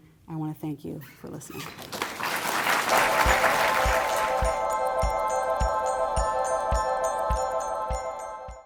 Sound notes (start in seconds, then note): 1.8 applause; 3.0 outro music